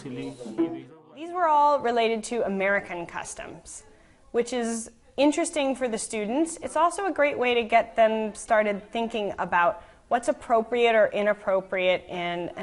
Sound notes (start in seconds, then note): 1.7 voiceover